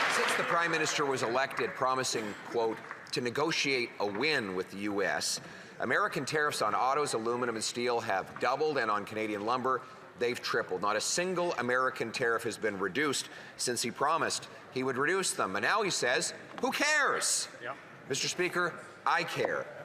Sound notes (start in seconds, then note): 0.0 some Applause